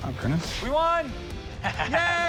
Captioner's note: laughs